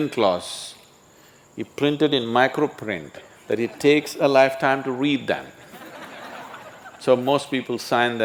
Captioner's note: laughter